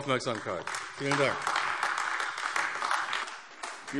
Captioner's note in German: Beifall AfD